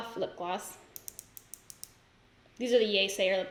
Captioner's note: lip gloss clicks